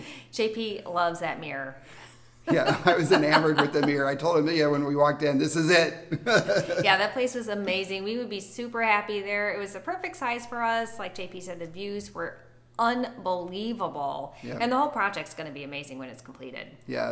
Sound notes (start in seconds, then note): 2.4 laughs; 6.0 laughs